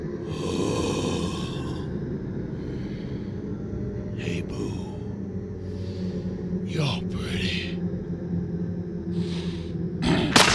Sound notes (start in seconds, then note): 9.2 big sniff